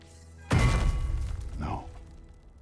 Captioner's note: Mjölnir drops